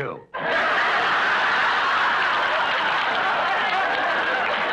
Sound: audience laughs

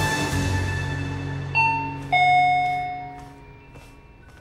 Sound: doorbell ringing

